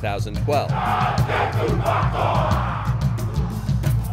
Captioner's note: soldiers chant